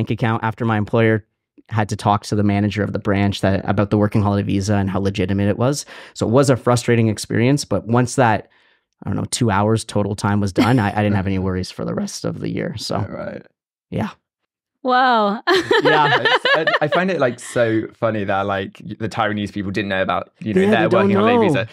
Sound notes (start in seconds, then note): 15.3 laughs